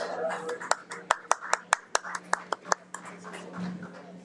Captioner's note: audience clapping